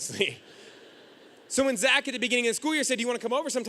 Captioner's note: audience laughing